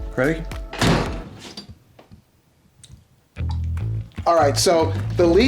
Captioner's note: door slams